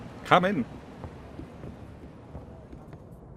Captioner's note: footsteps